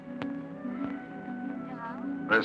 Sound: on phone

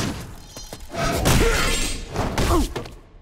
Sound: grunting

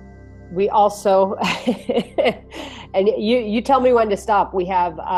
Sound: laughs

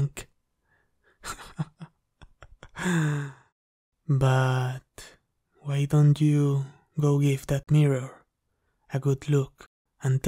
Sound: chuckles

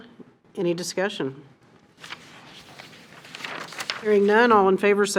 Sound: papers rustle

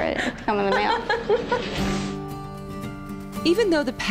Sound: laughing

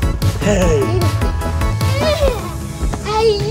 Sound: giggles

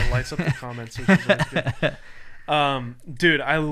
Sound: laughing

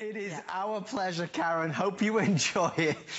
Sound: laughter

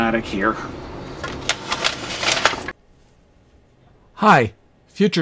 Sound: rustling paper

